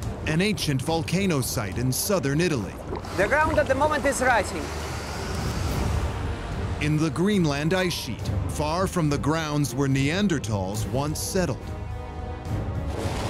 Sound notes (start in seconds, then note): 5.4 plane engines; 11.7 epic music continues